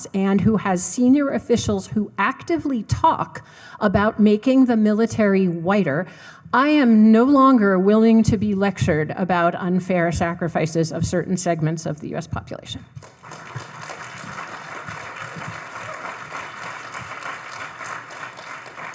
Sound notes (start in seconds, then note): 13.0 audience applauding